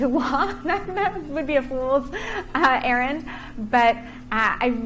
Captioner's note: chuckling